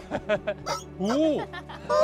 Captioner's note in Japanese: びっくりチキンが鳴く音